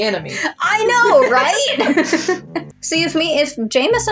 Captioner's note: laugh